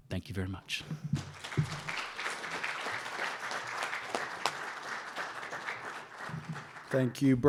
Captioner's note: applause